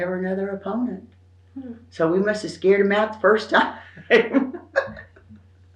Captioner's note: laughs